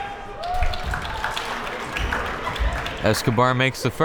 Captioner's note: crowd members clapping